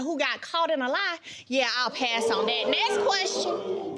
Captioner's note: audience exclaiming